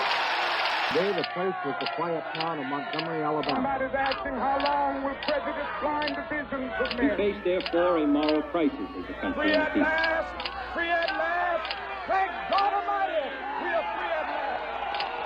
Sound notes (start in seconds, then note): 3.4 camera clicking; 12.6 camera clicks; 12.6 crowd exclaiming loudly